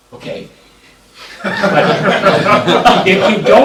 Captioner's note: laughter